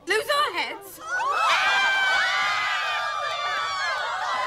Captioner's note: all scream